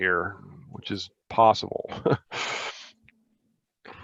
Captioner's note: chuckles